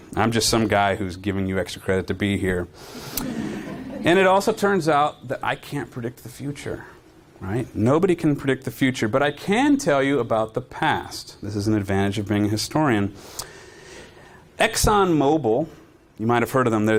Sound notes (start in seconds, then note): 3.2 audience laughing